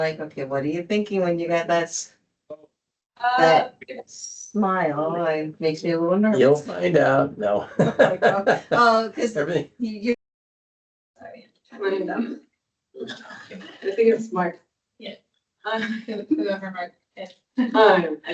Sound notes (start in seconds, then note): 6.1 audience talking, background noise